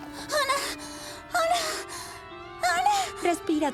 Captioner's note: hyperventilating